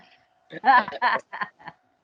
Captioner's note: laughing